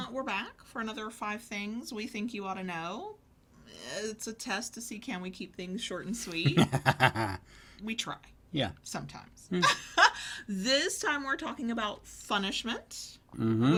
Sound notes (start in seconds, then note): 6.4 laughing; 9.5 laughing